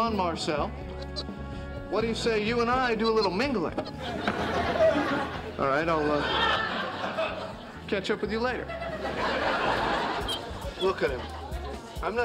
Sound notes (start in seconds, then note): 3.9 audience laughing; 10.2 monkey squeaking